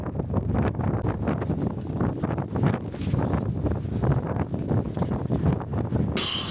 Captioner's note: wind Blowing